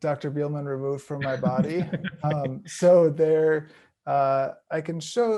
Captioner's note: chuckling